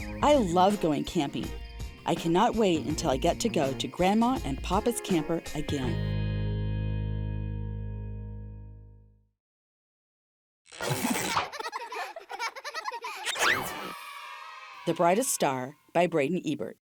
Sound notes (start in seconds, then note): 11.2 children laughing; 13.1 children cheering